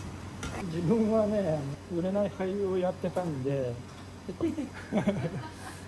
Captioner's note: laugh